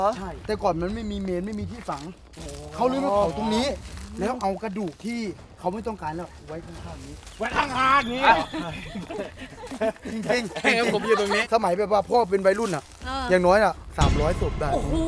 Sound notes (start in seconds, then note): 7.4 chuckles